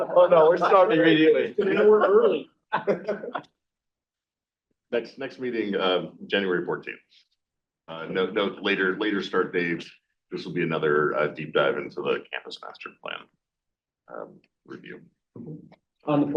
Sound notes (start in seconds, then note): 2.7 chair laughs